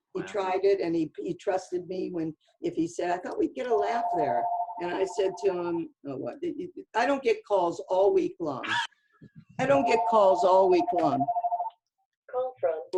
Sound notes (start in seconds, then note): 5.9 phone rings